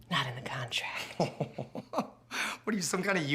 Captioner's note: Dick laughs